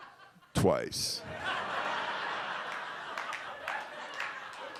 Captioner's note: audience laughs